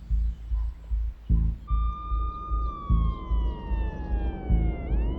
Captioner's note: siren wailing